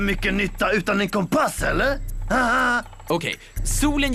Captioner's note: chuckles